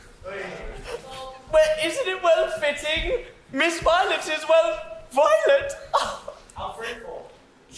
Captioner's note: laughs